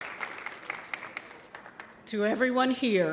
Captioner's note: audience applauding